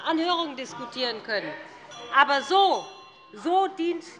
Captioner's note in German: Anhaltende Zurufe von der SPD - Glockenzeichen des Präsidenten